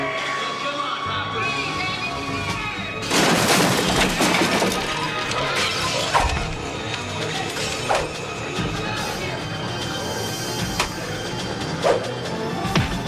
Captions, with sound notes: - Well, come on Hopper! (wood crashing)